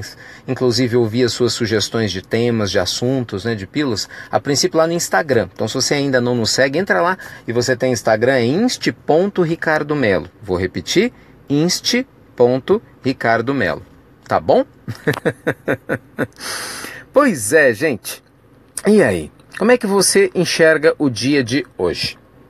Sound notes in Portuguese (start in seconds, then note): 14.8 risos